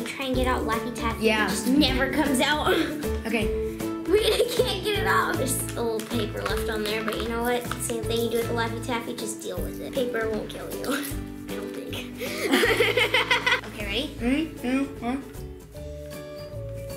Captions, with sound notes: you try to get out laffy taffy. It just never comes out. - Okay - Wait I can't get it off. There's still a little paper left on there but you know what, same thing you do with a Laffy Taffy, just deal with it. Paper won't kill you. I don't think. (laughs) - Okay ready? - Three, two, one